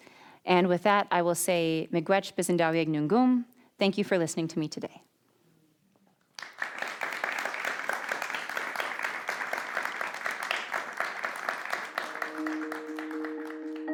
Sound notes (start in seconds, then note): 6.3 audience applauding